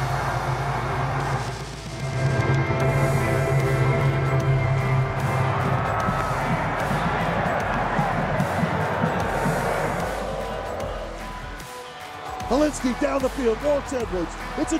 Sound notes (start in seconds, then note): 0.2 upbeat music; 7.1 yelling